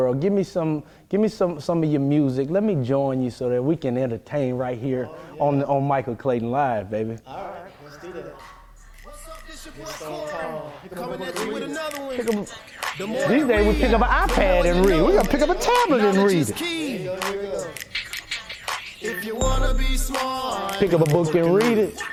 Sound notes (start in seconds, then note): 14.2 chattering